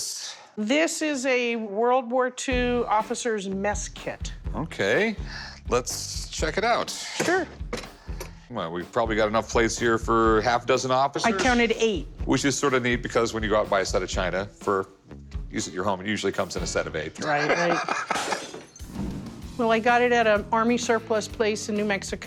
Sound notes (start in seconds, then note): 17.2 laughs